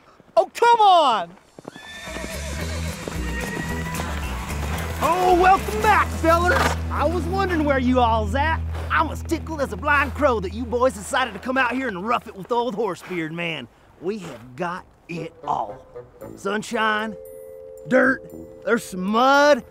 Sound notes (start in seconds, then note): 1.6 horse neighing